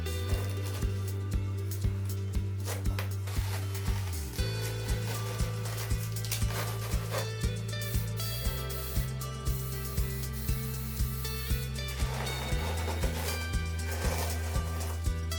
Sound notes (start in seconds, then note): 4.8 tape ripping; 9.9 sprayer hissing; 12.1 tape ripping